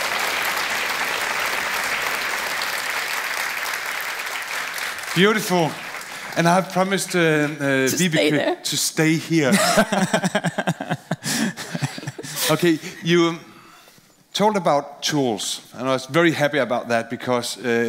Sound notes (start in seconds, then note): 9.5 laughing